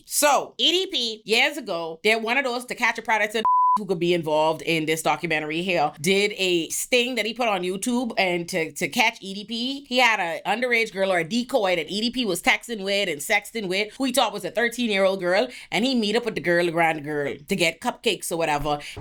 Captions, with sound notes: So EDP, years ago, they're one of those to catch a predator (beep) who could be involved in this documentary here. Did a sting that he put on YouTube and to catch EDP. He had an underage girl or a decoy that EDP was texting with and sexting with. Who he taught was a 13 year old girl. And he meet up with the girl, the grand girl to get cupcakes or whatever.